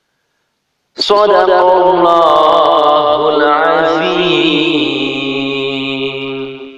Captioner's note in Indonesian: dalam bahasa Arab